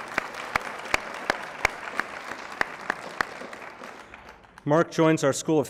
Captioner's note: applause